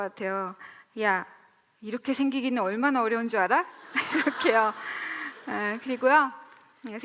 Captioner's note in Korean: 웃음